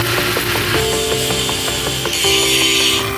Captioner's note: welding noises; grinding noises; therapy gun noises